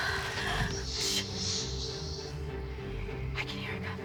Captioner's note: all panting; snake hissing